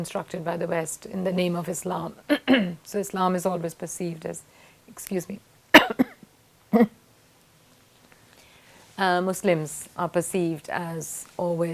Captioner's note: coughs